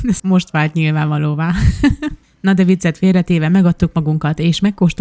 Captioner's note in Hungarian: nevetés